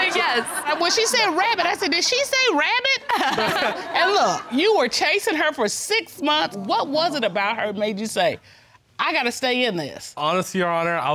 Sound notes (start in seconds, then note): 3.0 chuckles